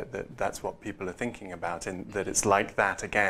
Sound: none

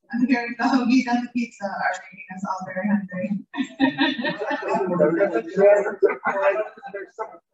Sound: laughter

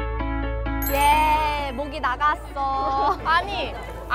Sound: bell chiming

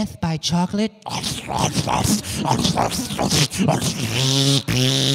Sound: making eating noises

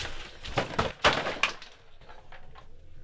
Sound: crash

